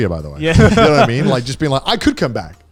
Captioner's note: group laughing